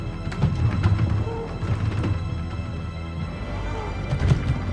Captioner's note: muffled scuffling